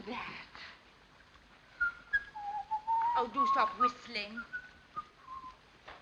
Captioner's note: whistling